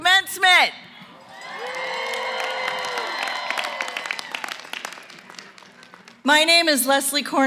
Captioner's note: cheering & applause